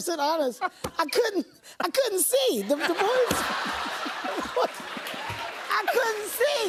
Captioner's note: laughter